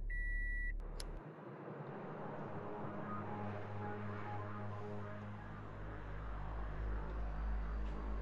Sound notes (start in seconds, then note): 1.1 lighter snapping